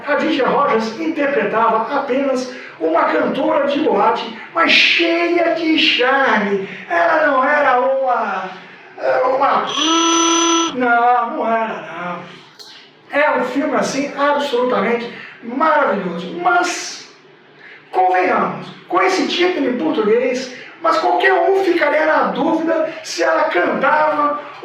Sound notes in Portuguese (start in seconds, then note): 9.7 barulho de buzina